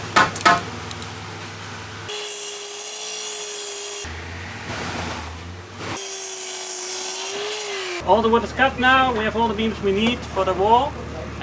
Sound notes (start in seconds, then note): 2.0 sawing